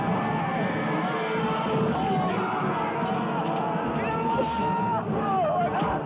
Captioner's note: men shouting